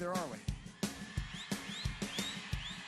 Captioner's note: crowd cheers